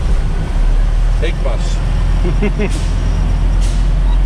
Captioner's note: laughings